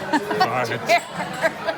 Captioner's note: laughter